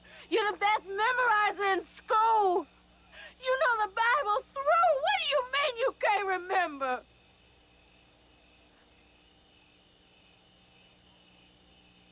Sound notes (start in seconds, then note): none